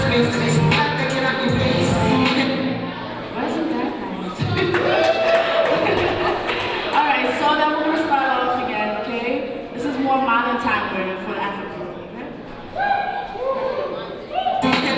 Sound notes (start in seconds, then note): 4.4 audience cheering